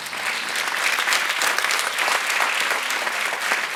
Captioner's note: audience applauds